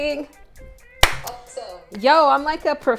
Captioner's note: claps